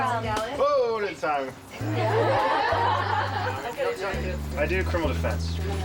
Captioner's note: contestants laughing